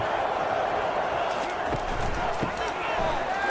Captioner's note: crowd Noises